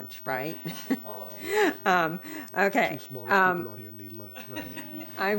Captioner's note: laughter